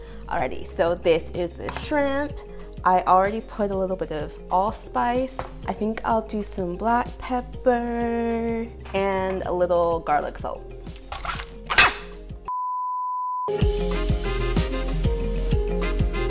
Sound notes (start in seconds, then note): 12.5 beep; 13.5 upbeat music